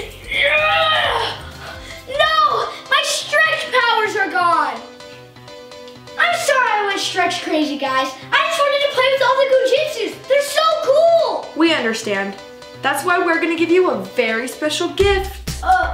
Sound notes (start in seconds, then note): 0.7 grunting